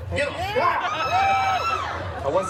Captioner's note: guests cheering